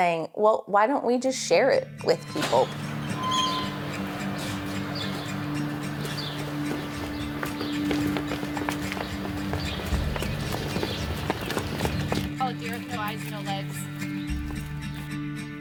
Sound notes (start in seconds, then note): 2.8 gentle music; 6.5 footsteps lightly tapping; 12.7 gentle music